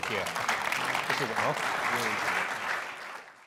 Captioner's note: clapping drowns out speaker